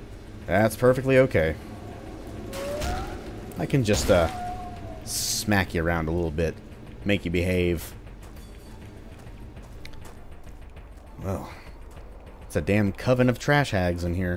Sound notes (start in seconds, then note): 2.6 THWACK again